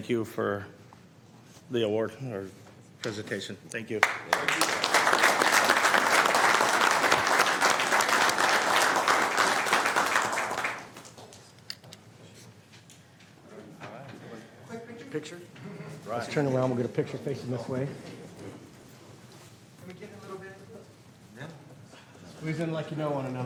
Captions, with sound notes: MANAGEMENT HELPED US PUSH THROUGH IT. THROUGH IT. AND THANK YOU FOR AT WARD OR AND THANK YOU FOR AT WARD OR PRESENTATION. PRESENTATION. THANK YOU. THANK YOU. [ APPLAUSE ] >> PICTURE? >> LET'S TURN AROUND AND WE'LL >> LET'S TURN AROUND AND WE'LL GET A PICTURE FACING THIS WAY.